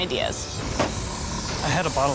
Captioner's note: paint fizzing